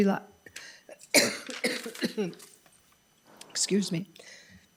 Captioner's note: person coughing